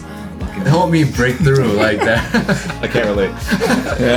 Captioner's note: everyone chuckles